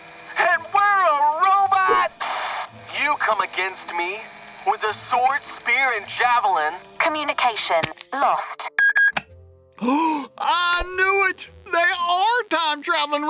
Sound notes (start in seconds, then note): 2.2 Static; 8.8 beep, beep; 9.8 gasp